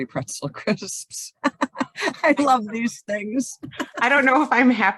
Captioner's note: laughs